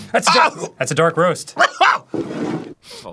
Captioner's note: trying to shake off the choking; chokes on the smell; taking a whiff